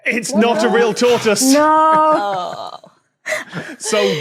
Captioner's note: chuckles